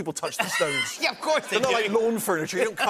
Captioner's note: laughter